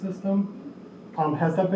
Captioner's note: air conditioner hums